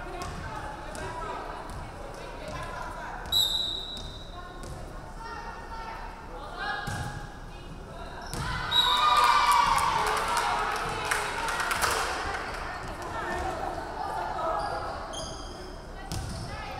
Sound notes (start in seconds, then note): 3.3 referee whistling; 8.6 crowd cheering; 8.7 referee whistling